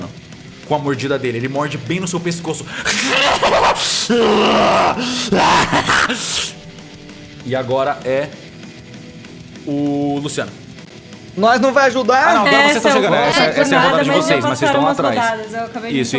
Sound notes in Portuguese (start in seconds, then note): 2.7 Risada maníaca